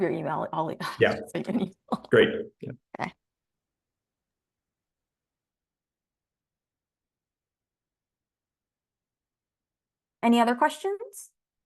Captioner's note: silence